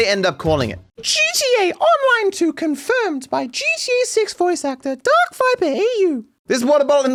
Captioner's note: high pitched voice